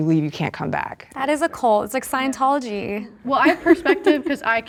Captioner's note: laughing